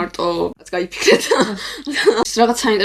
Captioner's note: laugh